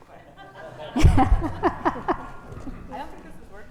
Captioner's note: audience laughing